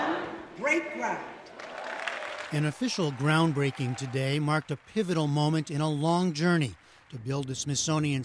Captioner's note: applause